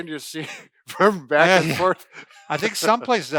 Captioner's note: laughing